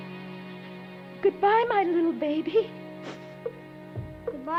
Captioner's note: sniffling